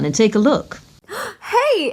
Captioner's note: with a slight shock/gasp, and confusion